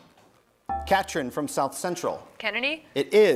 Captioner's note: bell rings